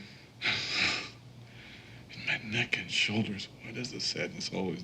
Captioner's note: chuckles